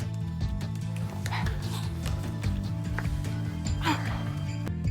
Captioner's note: Cleopatra giggles; both moaning